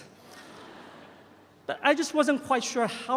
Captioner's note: audience chuckles